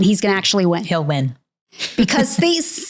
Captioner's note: chuckling